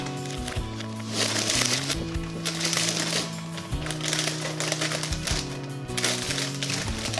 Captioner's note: rustling of the bag